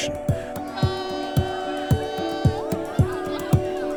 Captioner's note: cheering; background chatter